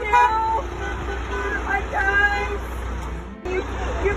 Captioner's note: honks